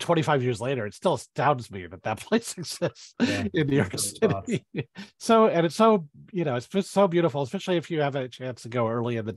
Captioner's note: laughs